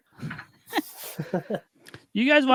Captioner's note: laughs